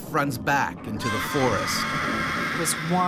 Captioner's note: voiceover; screaming